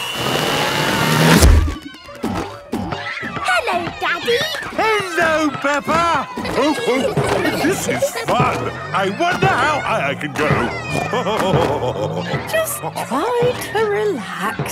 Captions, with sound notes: - Hello, Daddy. - Hello, Peppa! (laughing) This is fun. I wonder how high I can go. (snorting and laughing) - Just try to relax.